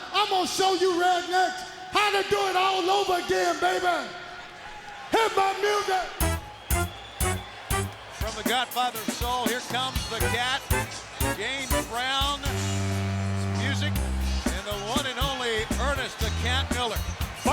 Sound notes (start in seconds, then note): 6.2 cheerful funk music; 13.2 crowd cheering